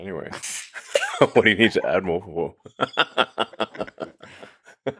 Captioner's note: laughs